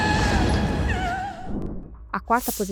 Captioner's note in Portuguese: grito